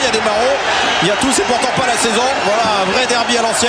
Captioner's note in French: bruits de foule en délire